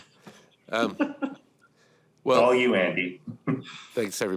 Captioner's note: laughs